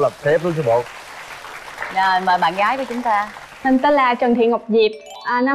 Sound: clap

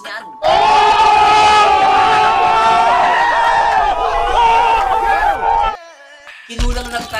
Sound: people screaming

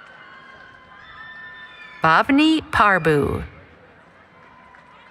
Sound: cheering

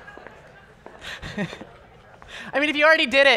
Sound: scattered laughter

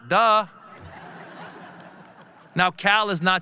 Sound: audience laughing

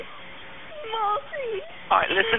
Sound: audibly upset and crying

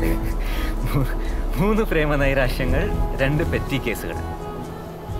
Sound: laughing

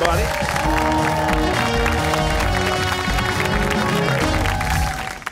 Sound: cheers and applause

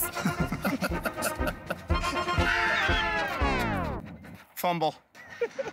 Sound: laughter; laughing

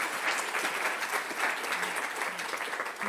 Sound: applause

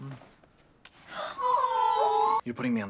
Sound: GIRLS go AWWWWW

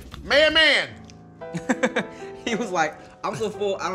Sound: laughs

